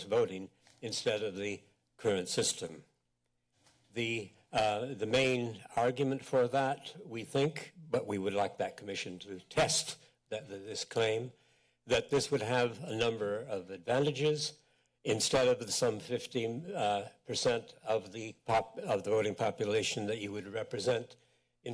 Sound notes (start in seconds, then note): 3.0 pause